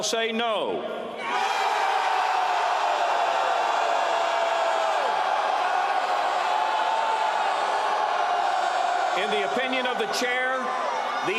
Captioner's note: loud “Aye”; loud “No”